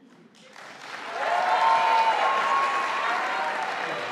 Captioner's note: audience applauding